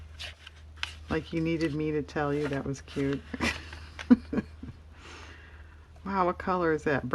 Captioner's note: laughs